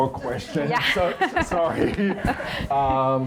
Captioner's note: laughing